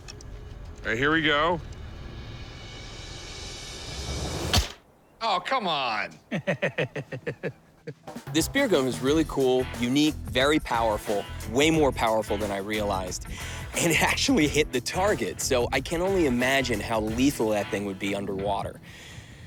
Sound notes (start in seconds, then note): 6.1 chuckles